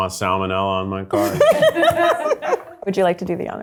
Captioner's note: laughing